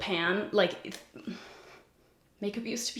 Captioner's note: sighs